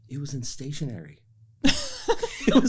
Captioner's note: laughter